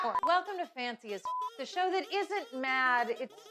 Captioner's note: beep